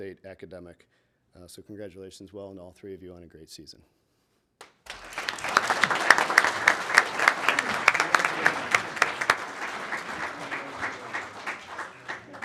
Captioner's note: applause